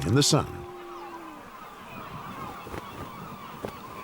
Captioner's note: seagulls cawing